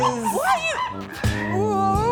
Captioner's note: funky monkey noises